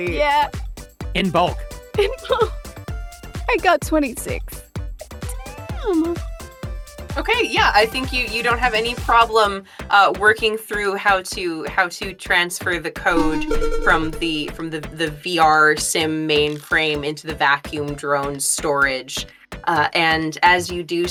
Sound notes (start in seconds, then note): 13.1 electronic chime